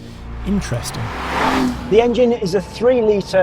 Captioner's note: engine revs